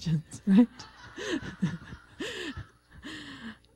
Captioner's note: laughter